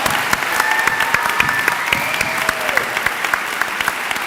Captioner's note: clapping